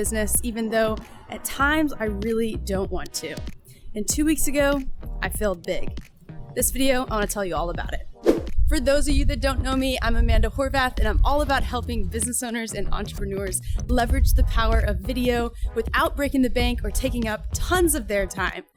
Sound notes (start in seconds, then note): 8.2 swoosh sound